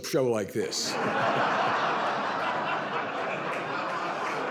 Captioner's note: audience laughs